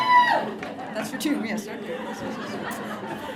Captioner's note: cheering